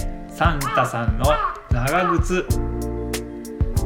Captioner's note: a crow's cry